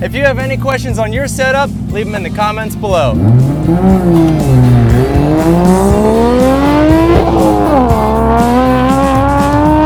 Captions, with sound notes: If you have any questions on your set up, leave em in the comments below. (engine revving) (upbeat music)